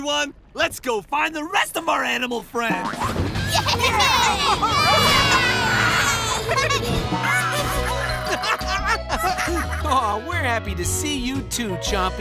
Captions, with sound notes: Let's go find the rest of our animal friends! [cheering] [laughing] Aww, we're happy to see you too, Chompy.